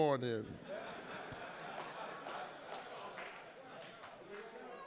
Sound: audience laughing

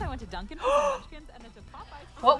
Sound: gasping

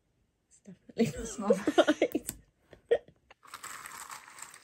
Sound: giggles

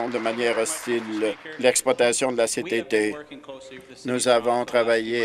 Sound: applause

